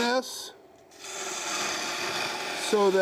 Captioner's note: wood scrapes